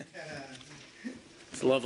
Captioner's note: laughter